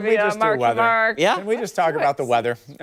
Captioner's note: laughter